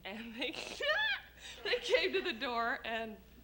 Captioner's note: laughs